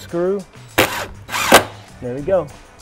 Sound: drill whirring

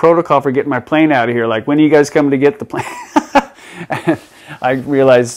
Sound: laughs

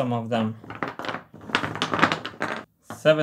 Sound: wood clatters

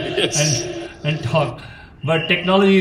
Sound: laughs

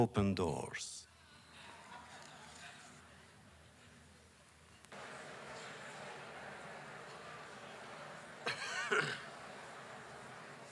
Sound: laughter

